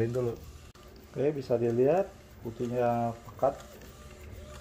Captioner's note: printer machine sound